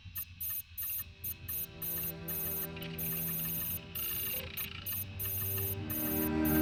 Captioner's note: mechanical beeping; somber music